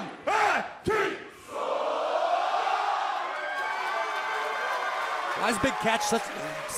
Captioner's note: crowd cheering